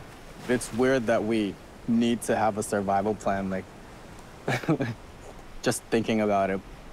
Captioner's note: chuckles